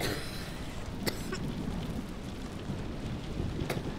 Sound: Rouge coughing

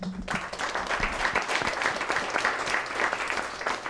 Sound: applause

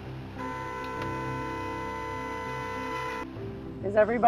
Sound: bus horn

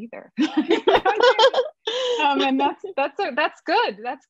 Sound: laughter

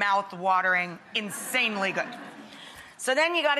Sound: audience laughing

